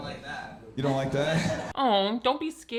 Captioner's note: audience laughing